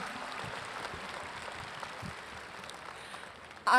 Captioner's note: applause